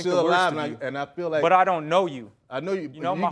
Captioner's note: stuttering